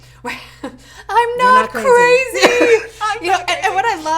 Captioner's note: laughs